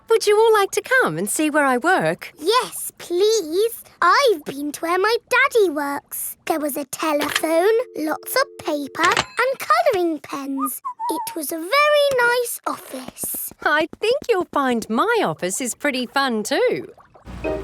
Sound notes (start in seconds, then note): 10.5 whistles